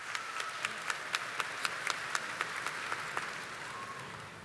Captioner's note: audience applauding